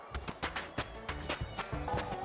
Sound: steps

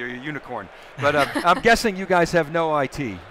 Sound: laughing

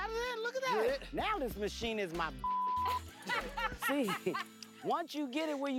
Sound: laughs

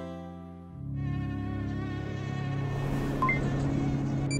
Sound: mosquito whine; electronic sound effects

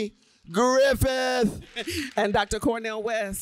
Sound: applause

